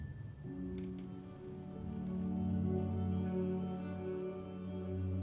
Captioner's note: floor creaking; somber violin music